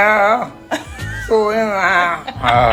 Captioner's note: laughter